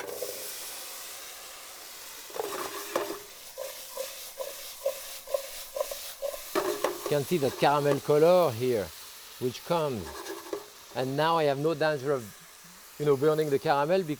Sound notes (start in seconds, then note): 0.1 caramel sizzling; 3.8 apples thudding